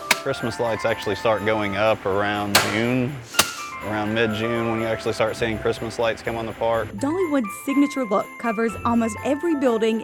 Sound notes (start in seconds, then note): 0.0 thunking; 3.4 thud